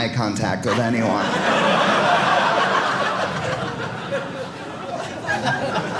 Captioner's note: audience laughing